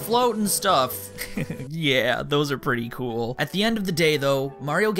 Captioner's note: giggles